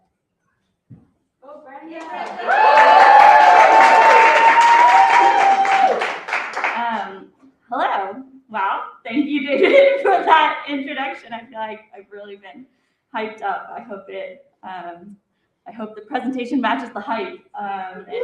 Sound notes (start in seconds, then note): 1.9 cheering; 1.9 applause